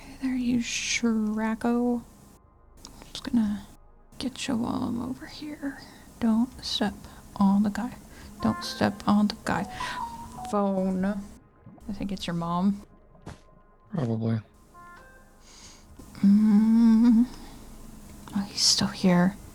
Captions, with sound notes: Hey you "shrako" I'm just gonna get'cha while I'm over here. Don't step on the guy. [phone noises] Don't step on the guy. Phone. I think it's your mom. Probably. [phone noises] [nervous noises] He's still here.